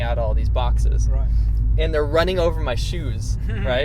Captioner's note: laughs